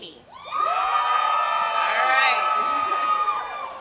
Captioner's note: yelling